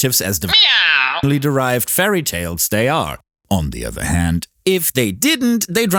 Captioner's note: meow